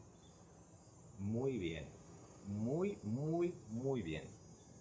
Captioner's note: in spanish